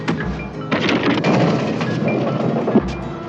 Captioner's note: crash